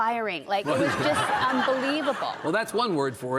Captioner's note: audience laughing